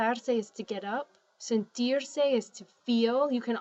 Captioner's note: spanish